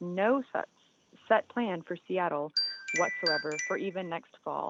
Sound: chime

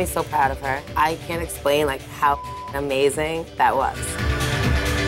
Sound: beep

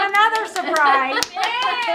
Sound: laughs

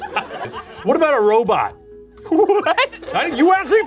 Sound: laughing

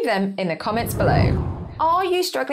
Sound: screen whooshes

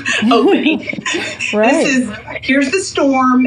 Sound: laughs

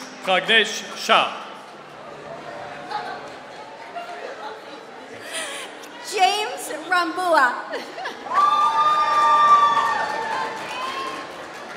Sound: applause

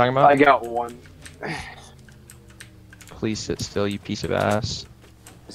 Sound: throat clear/exhale

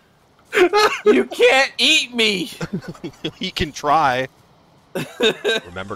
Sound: laughter

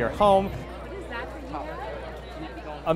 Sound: crowd chatter

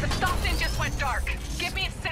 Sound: radio

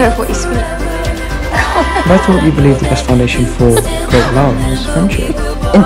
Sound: laughing

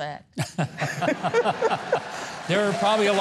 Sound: audience laughing

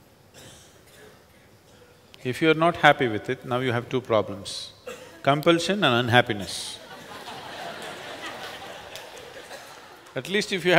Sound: laughter

